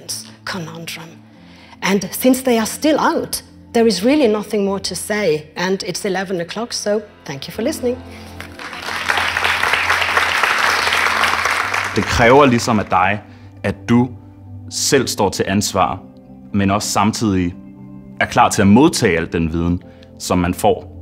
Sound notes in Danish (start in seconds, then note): 8.4 klapsalver fra salen